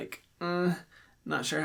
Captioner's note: vocalizing